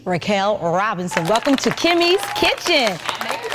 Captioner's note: audience applauding